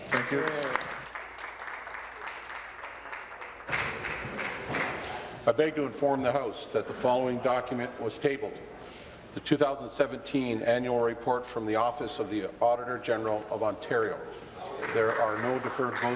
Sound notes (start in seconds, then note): 5.6 applause